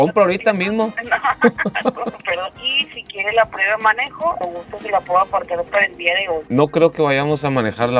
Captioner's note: laughter